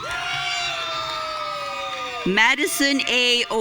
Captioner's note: audience cheering